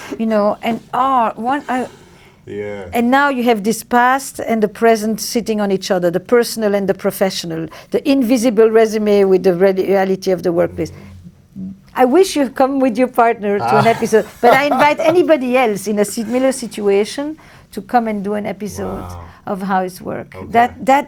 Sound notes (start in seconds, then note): 13.6 laughs; 13.6 Lewis laughs